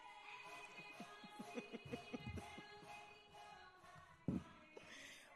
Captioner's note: laughing